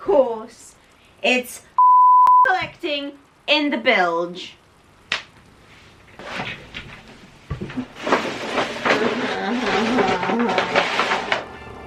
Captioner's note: falls on floor